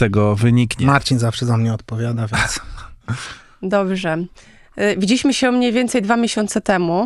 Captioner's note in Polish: śmiech